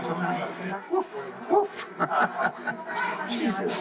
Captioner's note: laughs